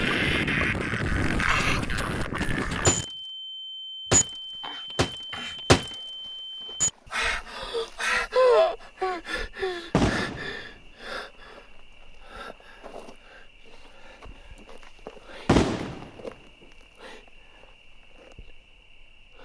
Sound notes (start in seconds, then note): 3.2 camera bashing; 6.9 Keith hyperventilating; 10.0 distant gunshots